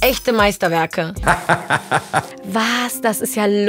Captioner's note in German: Schallendes Lachen